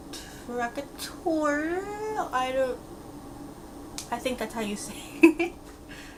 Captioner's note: giggles